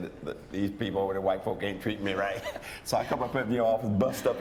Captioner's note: chuckles